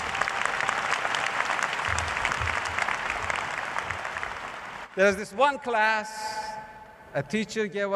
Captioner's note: applause